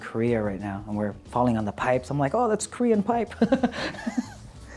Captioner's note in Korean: 웃음